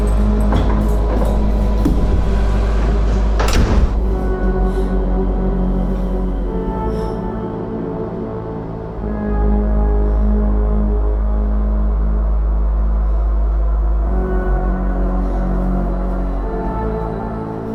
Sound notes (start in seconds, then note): 1.9 chair thuds; 3.5 door slams; 4.8 Leona gasps; 14.2 dark music continues